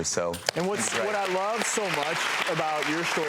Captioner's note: applause